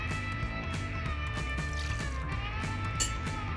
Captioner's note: liquid pouring